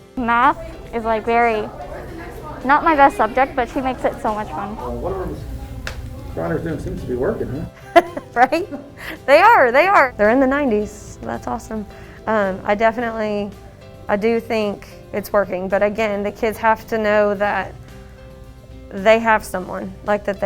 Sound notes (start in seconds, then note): 8.3 laughs